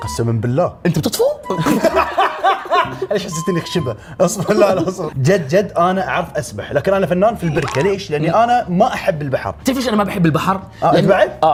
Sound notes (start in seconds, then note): 1.5 laughter; 4.3 laughs